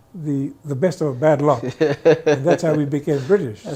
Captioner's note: guy laughs